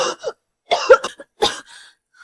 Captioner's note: cough, cough, cough